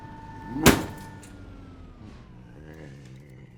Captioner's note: banging machine, machine turns off